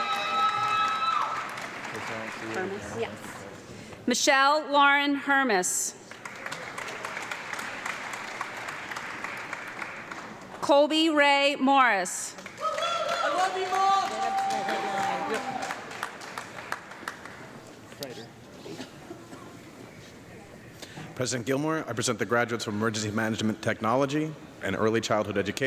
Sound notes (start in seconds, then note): 0.0 audience clapping and cheering; 6.0 audience clapping; 12.3 audience clapping and cheering